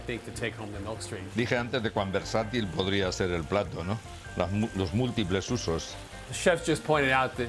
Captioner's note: speaking Spanish